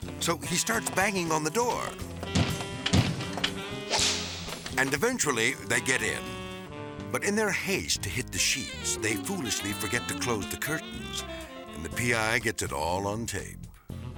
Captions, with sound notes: So he starts banging on the door. (fist on door pounding) (whip cracks) And eventually, they get in. But in their haste to hit the sheets, they foolishly forget to close the curtains and the PI gets it all on tape.